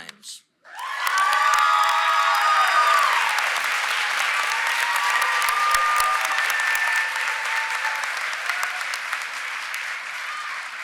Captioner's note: applause